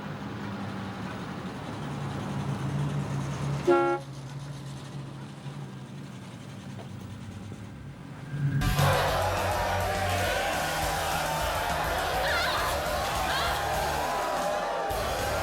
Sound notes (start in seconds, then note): 0.1 car engine rumbling; 3.6 horn honks; 8.6 crowd cheering; 11.6 women grunting